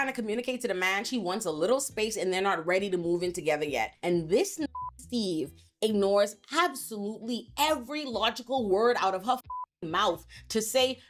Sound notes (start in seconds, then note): 4.6 beep; 9.4 beep